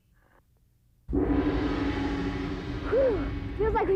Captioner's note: gong